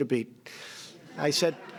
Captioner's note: laughter